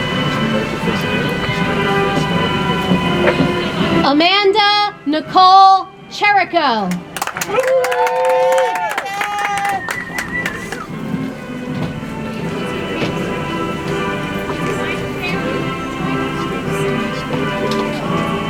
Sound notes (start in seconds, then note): 6.9 audience applauds; 10.4 soft music